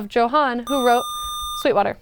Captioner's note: buzzer